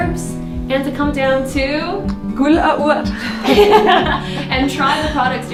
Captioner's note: laughing